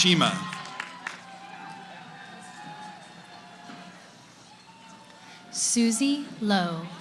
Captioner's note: cheering